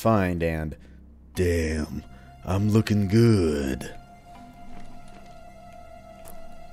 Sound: duke nukem voice

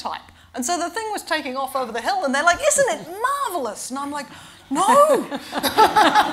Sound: laughter

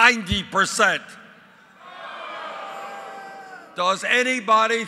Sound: crowd yelling “No”

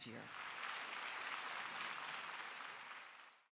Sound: audience applauding

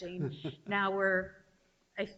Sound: chuckling

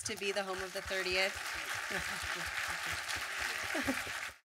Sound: audience clapping

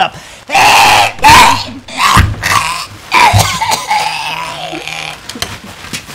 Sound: Ethan Klein Coughing™

